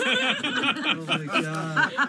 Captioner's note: laughter